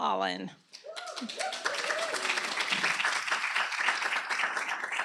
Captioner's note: applause